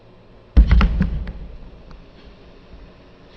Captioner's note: body thumps